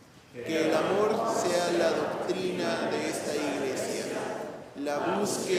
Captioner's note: speaking in foreign language